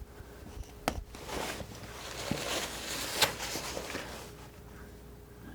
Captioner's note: scratching